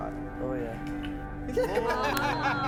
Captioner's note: laughs